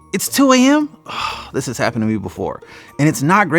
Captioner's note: sighs